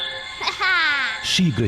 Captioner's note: chuckles